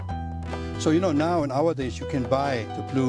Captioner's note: pot clang